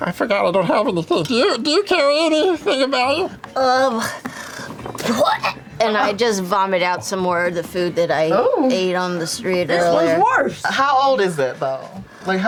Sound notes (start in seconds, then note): 3.5 vomits